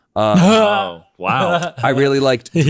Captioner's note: laughs